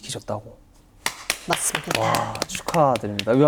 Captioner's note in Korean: 박수